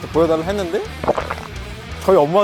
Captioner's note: gulp